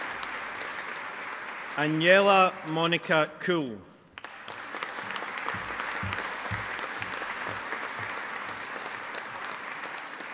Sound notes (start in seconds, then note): 4.1 audience applauding